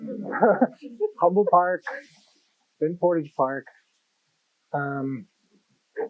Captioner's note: laughter